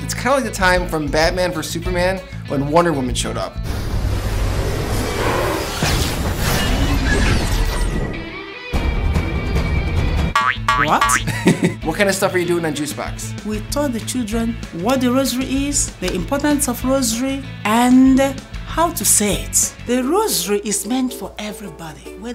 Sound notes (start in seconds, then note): 6.2 explosion resounds; 8.7 dramatic music; 10.3 question marks ding; 10.9 laughs